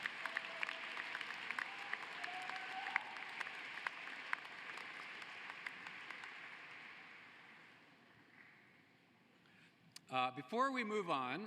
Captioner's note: applause